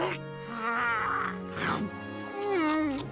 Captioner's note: Crunch